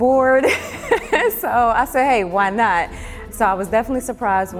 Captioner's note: laughs